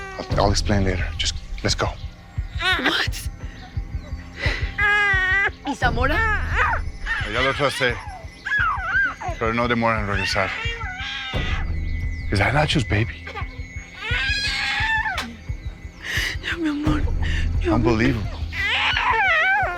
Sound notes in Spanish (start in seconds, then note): 13.8 Llanto del bebé